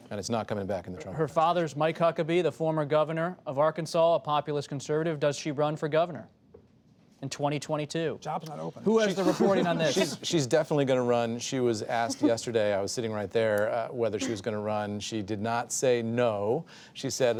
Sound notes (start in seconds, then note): 9.1 laughter